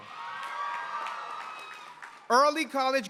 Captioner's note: applause